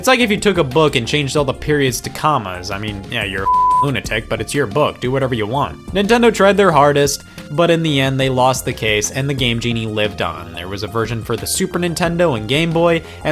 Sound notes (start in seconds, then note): 3.4 beep